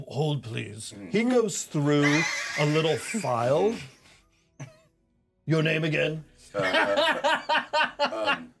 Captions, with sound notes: - Hold please. - Mm-hmm. - He goes through (speaker chuckles) a little file. - Mm-hmm. (speaker chuckles) Your name again? (laughs)